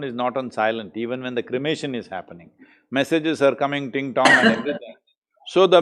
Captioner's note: Kiran laughs